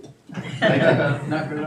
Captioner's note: audience laughing